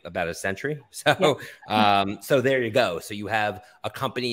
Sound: chuckles

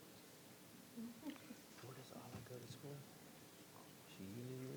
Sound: board members chattering

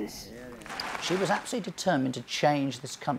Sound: audience clapping

